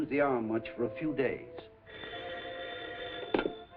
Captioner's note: phone rings